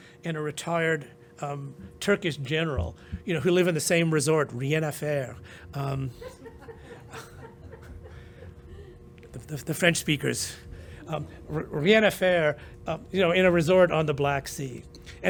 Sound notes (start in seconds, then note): 4.6 french; 5.9 laughter; 12.1 french